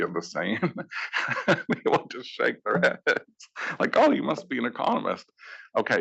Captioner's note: laugh